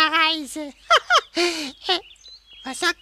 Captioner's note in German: lacht